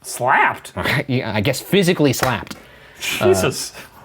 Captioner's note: clapping